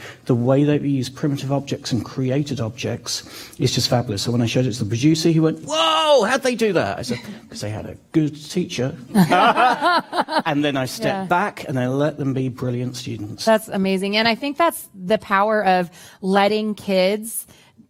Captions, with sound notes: The way they've used primitive objects and created objects is just fabulous. So, when I showed it to the producer, he went, "Whoa! How'd they do that?" I said, "Because they had a good teacher." [ Laughter ] And then, I stepped back, and I let them be brilliant students. - That's amazing, and I think that's the power of letting kids